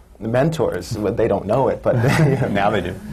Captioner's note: laughs